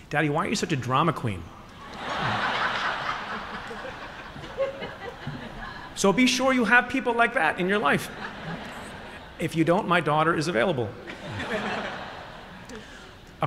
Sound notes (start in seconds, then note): 1.8 laughter; 11.0 laughter